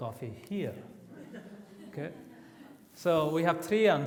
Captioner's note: audience laughs